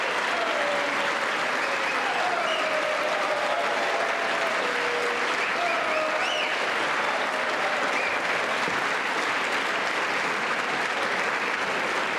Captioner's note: applause